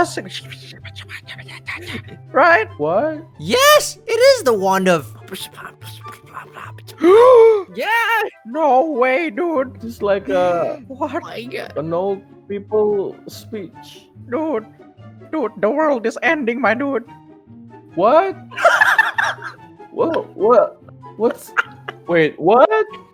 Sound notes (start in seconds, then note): 5.1 beatboxing?; 18.5 cracking up amidst confusion